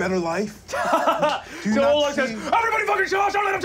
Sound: laughing

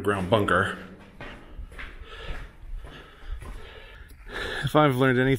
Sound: footsteps continue

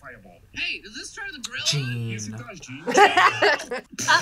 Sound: tsks; laughs

